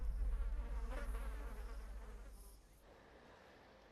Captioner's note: insects buzz